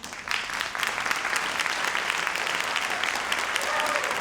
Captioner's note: audience applauds